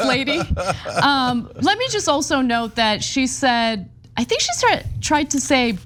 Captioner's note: laugh